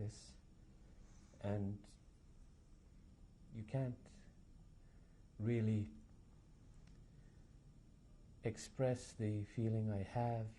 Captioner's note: pauses for 3 seconds